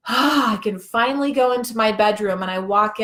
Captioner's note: sighs